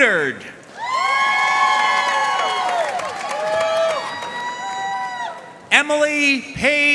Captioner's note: audience cheering and applauding